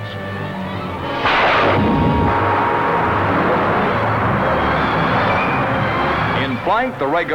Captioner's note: explosion, engine